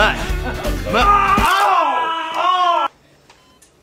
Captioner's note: loud groaning